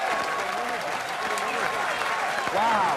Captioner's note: intensified crowd cheering